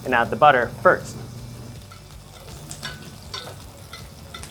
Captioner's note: butter sizzling